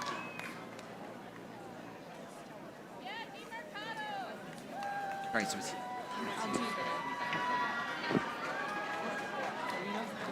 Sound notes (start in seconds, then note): 0.0 audience chattering